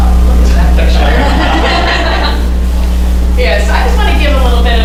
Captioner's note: laughter